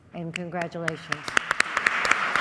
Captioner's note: applause